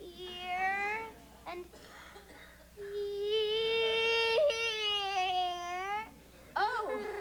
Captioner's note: sobs